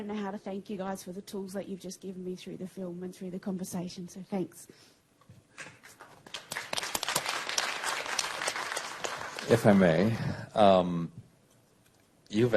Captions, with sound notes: YOU FOR THE TOOLS YOU'VE JUST GIVEN ME THROUGH THE FILM AND CONVERSATION, SO THANKS. [APPLAUSE] >> IF I MAY, YOU'VE ACTUALLY HIT